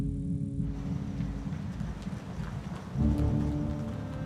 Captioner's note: insects chirping; tires rumbling